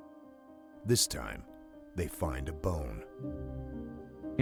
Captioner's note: voiceover